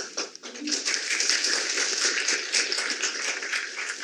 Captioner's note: applause